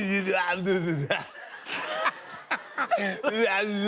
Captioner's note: laughter